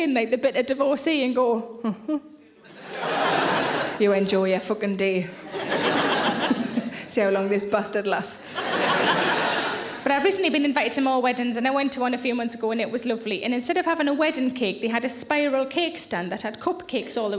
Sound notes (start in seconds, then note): 5.4 laughs; 6.0 audience laughs; 8.4 audience laughs